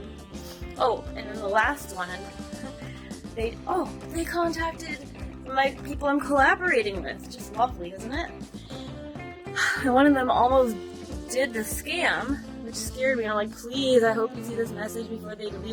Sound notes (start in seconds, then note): 8.6 sigh